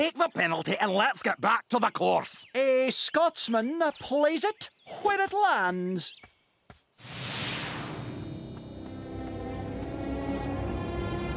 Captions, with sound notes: Take the penalty and let's get back to the course. A Scotsman plays it where it lands. [low humming noise]